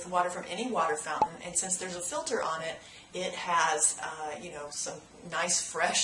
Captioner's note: pop